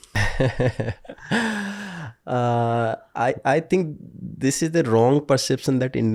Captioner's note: chuckles